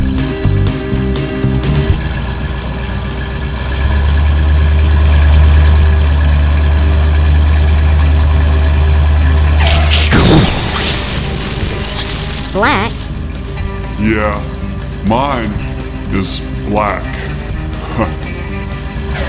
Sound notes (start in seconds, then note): 7.9 engine noise; 7.9 explosion; 7.9 skid